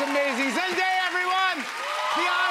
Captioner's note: cheers and applause